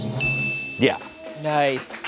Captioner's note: bell dings